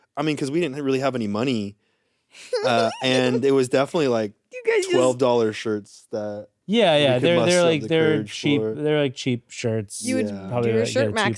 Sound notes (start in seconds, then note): 2.4 giggles